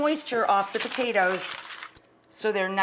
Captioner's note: foil scraping